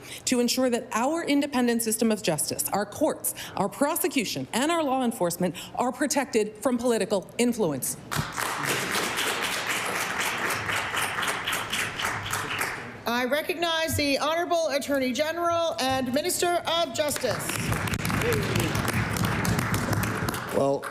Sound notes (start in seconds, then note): 15.0 applause